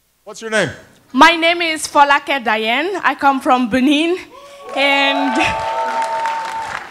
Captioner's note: cheering